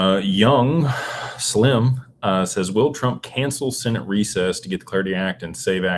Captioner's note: sighs and gasps